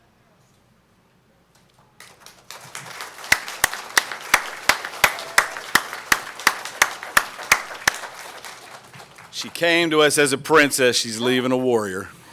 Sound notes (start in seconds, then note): 1.6 applause